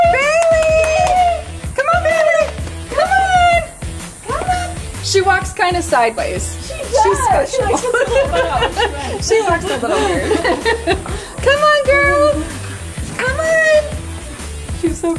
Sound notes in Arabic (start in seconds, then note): 8.9 يضحكان; 10.9 تضحك